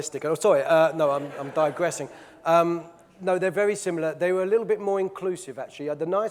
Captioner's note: audience laughing